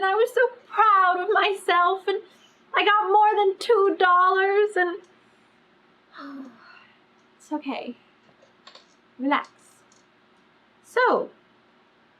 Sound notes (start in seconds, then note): 6.1 sighs